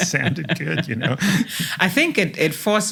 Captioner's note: laugh